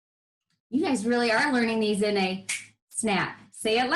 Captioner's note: snaps fingers